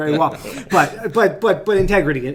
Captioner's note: everyone laughs